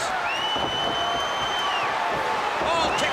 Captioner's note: crowd cheering